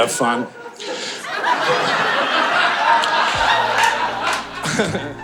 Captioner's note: audience laughing